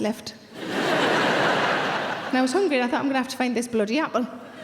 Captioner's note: audience laughs